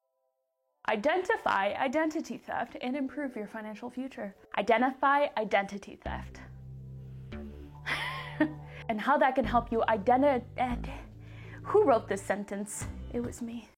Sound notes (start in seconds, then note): 7.8 giggle